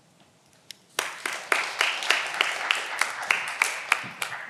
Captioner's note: audience applause